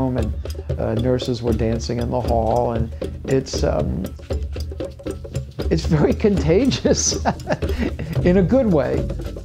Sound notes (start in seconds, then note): 6.7 laughs